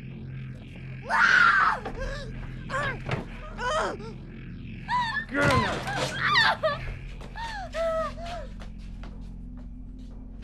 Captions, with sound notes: [screams] Get in there.